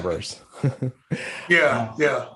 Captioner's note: chuckling